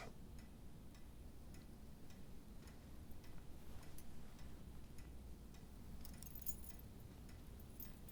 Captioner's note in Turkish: Saat efekt sesi